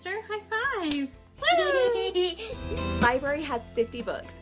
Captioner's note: girl giggles